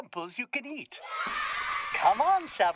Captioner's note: kids cheering